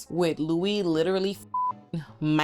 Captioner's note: beep